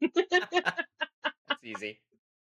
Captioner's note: both laughing